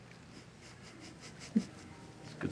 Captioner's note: chuckling